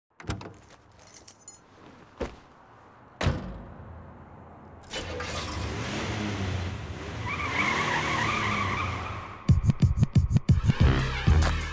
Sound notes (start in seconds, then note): 0.2 door Opening; 4.8 car Starting, Speeding Away